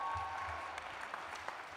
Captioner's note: cheers and applause